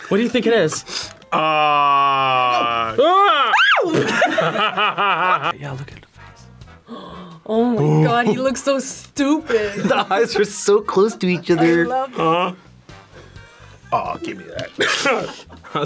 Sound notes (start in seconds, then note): 1.3 screams; 4.1 both laugh; 6.8 gasps; 14.7 laughs